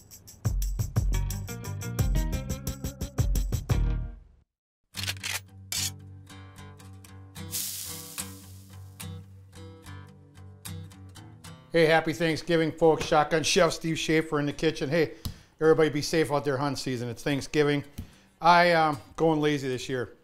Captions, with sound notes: (shotgun cocking) (sizzling) - Hey, Happy Thanksgiving, folks. Shotgun Chef Steve Shafer in the kitchen. Hey, everybody be safe out there, hunting season, it's Thanksgiving. I'm going lazy this year.